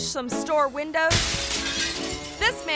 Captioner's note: glass shatters